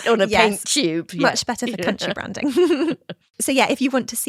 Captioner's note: chuckles